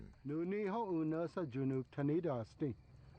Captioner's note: speaking Cherokee